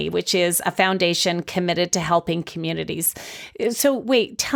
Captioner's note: none